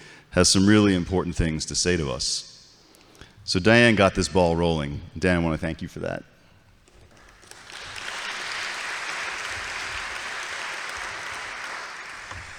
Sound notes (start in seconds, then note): 6.9 audience applauds